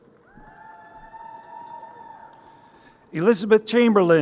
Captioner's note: crowd cheering